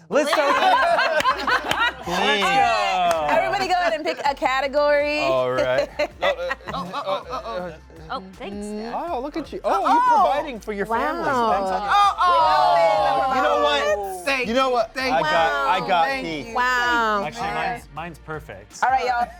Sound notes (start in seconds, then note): 0.3 cast laughs; 7.1 laughs; 11.6 cast exclaims